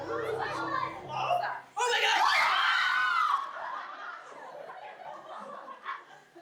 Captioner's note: screams